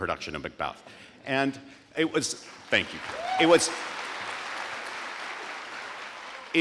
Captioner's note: audience applauding